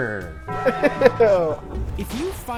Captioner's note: laughing